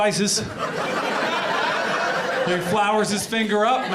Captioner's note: audience laughs